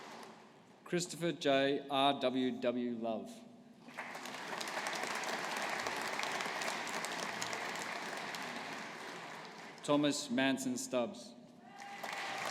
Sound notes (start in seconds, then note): 3.8 audience applauding